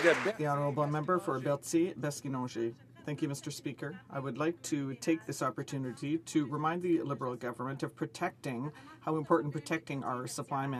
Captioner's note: applause